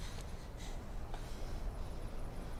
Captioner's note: none